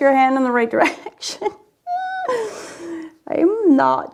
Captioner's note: laughs